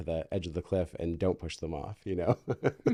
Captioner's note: laughing